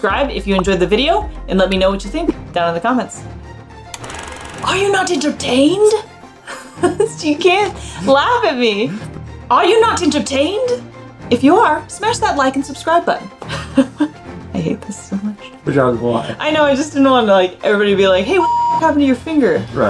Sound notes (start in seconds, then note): 3.3 background music; 3.9 film rolling sound effect; 5.5 in a grand voice; 6.1 background music; 6.4 laughs; 13.5 laughs; 14.3 quietly